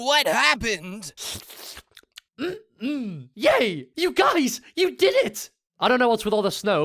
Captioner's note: gulp; licking noises